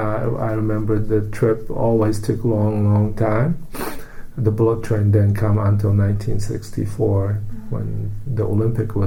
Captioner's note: sniffs